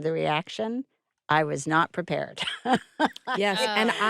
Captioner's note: chuckles